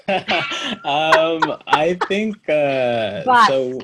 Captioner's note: laughter